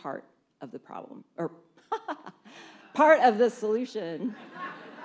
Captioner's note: laughs; laughter